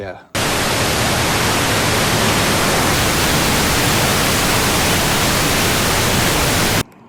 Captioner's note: river roaring